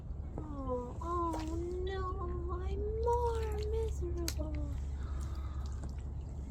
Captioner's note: gasps